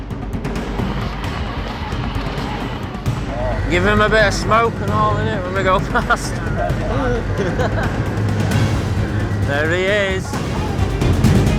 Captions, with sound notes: Give him a bit of smoke and all of it when we go past. (bikers laughing) There he is.